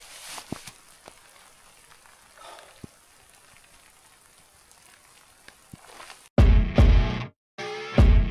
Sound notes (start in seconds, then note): 0.0 rain splashing; 2.4 upbeat music